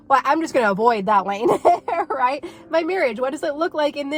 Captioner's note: laughing